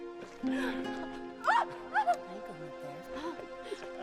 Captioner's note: laughter